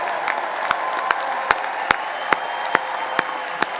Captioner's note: applause; cheering